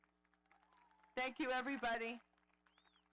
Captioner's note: audience applauding